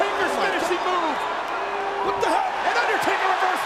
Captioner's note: crowd cheering